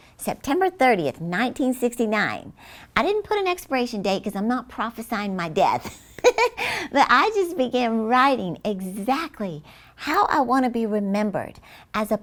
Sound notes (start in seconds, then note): 5.8 chuckles